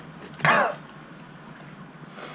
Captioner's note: cough